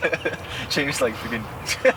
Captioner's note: laughter